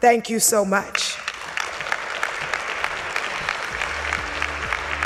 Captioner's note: audience clapping